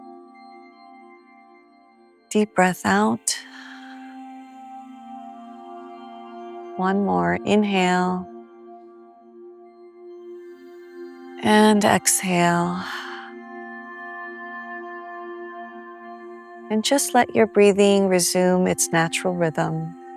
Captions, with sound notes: Deep breath out. [exhales] One more inhale. And exhale. And just let your breathing resume its natural rhythm.